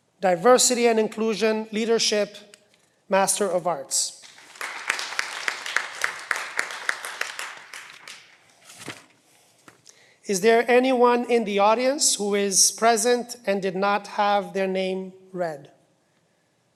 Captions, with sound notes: Diversity and Inclusion Leadership, Master of Arts. (cheering) Is there anyone in the audience who is present and did not have their name read?